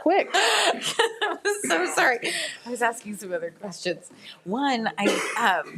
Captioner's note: laughs